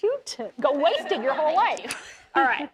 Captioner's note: laughing